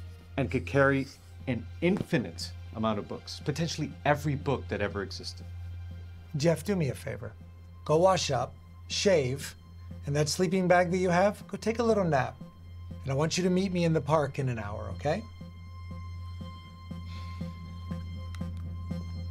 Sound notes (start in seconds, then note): 17.0 sighs